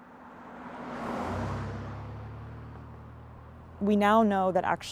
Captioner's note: pickup truck traveling on highway